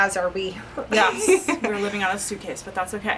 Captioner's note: laughing